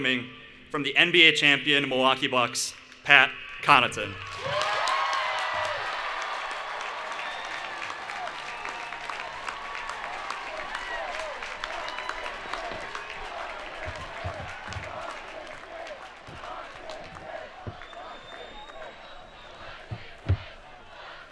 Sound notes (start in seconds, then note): 4.6 cheering and Applause